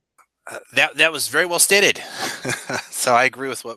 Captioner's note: laughs